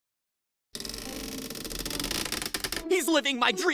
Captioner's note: creak